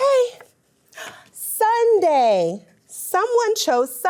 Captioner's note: gasps